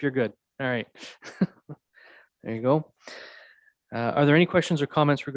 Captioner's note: laughs